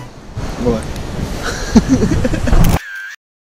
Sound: laughing

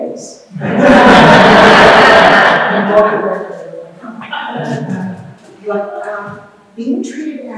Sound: crowd laughs

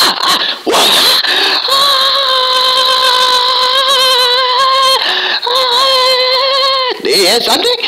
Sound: screaming

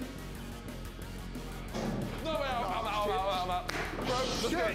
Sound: banging

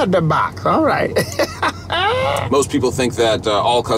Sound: Keegan laughing

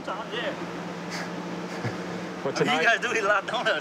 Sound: laughs

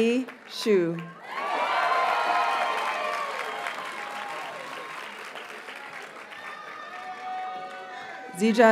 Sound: audience cheers and applauds

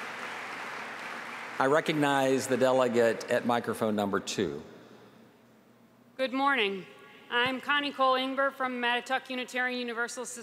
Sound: applause

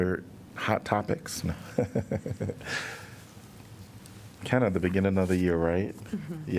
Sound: laughter

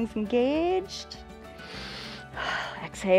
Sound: inhales and exhales

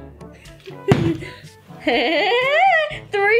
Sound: laughing; bottle landing

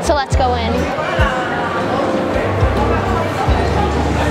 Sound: crowd chatting

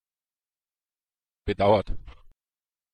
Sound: fast Pronunciation

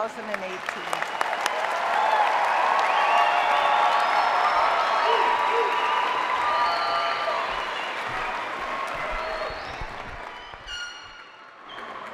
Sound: cheering

